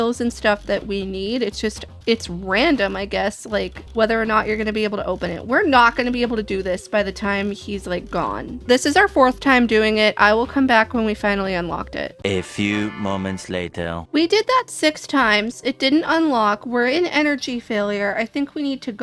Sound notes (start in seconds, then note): 11.9 french accented male narrator voice